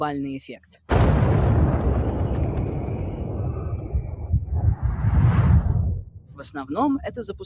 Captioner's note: explosion